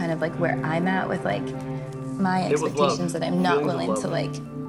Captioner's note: laughing